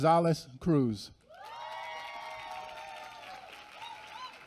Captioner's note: applause